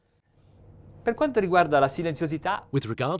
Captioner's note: speaking in a foreign language